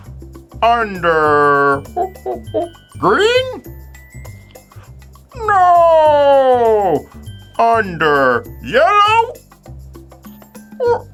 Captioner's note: monkey noises